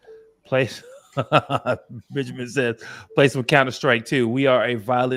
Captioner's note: laughs